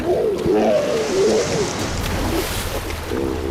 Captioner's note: hippo roaring